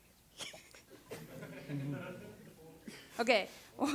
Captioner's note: laughter